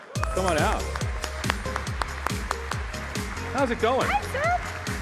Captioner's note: applause